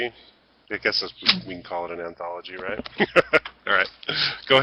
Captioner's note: he laughs